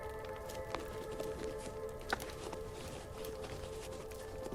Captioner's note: shoes rustling